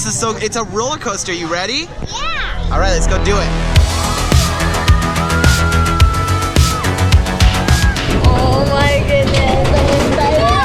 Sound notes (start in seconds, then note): 4.0 screaming; 4.7 upbeat music